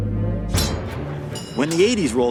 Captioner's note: swords clash